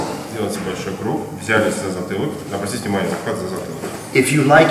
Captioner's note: speaking in a foreign language